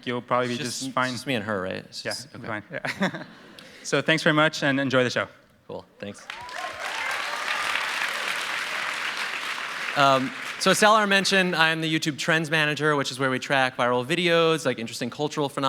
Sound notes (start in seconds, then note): 6.2 cheers and applause